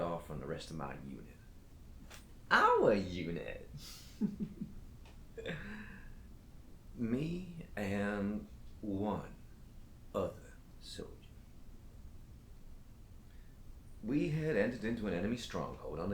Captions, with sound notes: and cut off on the rest of my unit, our unit, (Captain Brookes giggles) Me and one other soldier. We had entered into an enemy stronghold,